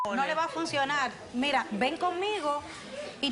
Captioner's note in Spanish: Bip